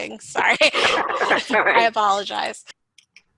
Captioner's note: chuckles